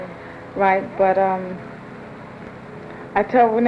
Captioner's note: airplane noise in background through next several lines of dialogue